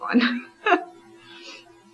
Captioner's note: laughs